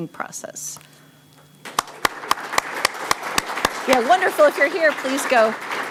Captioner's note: applause